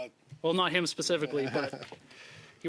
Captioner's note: laughter